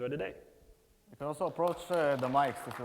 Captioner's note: audience applauds